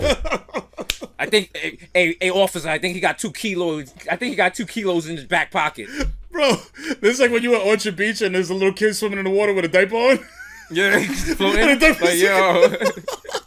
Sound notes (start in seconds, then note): 0.0 laughs; 10.2 laughs; 13.2 laughter